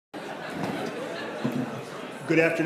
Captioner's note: attendees chattering